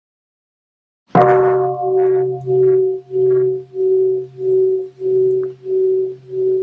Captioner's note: bell